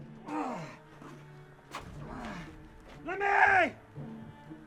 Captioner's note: Merriweather grunts